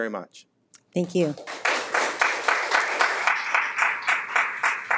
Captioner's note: people applauding